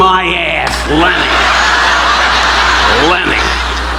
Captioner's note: audience laughing